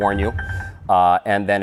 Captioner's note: warning bell